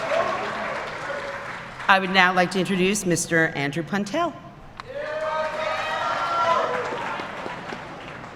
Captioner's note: applause